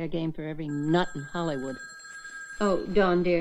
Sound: phone ringing

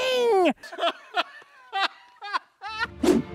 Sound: laughter

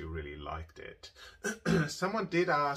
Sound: clears throat

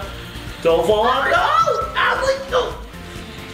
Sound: screams

